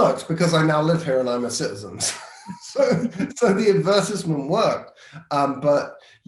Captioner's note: laughing